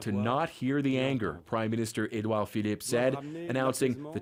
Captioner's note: speaking French